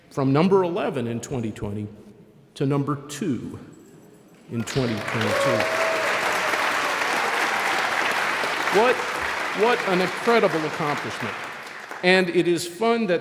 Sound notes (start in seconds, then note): 4.6 audience applauds